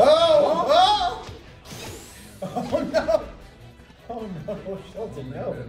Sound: laugh

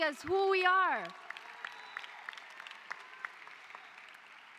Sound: cheering

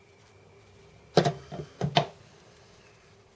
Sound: thud on table

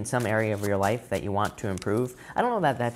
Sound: cards shuffling

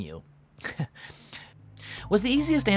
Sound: chuckles; thoughtful music playing

